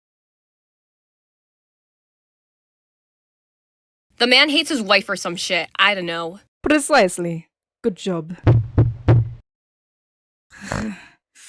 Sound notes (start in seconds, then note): 8.4 Cosmic pounds on the door; 10.5 Miss Thavel growls